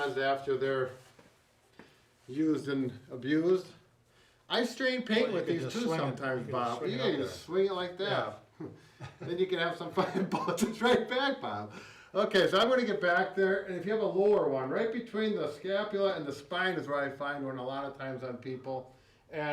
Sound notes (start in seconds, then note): 8.5 laughing